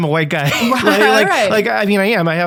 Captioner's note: both laughing